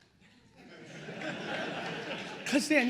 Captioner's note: attendees laughing